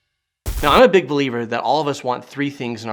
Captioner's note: static crackling